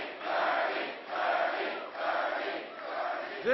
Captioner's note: applause